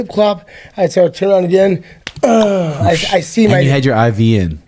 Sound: groans

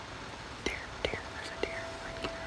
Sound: whispering

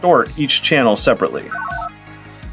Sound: analog beeps

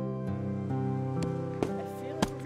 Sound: hammering

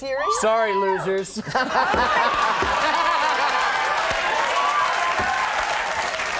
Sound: laughs; audience cheering

